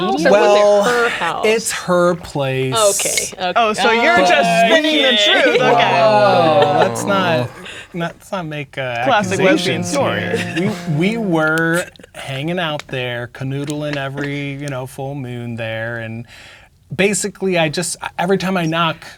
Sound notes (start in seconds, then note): 9.1 others laughing